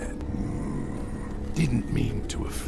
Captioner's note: grumbling